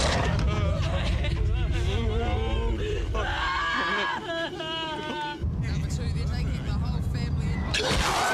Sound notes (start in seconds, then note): 0.0 crying clamoring continues